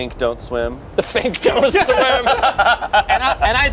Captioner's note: laughs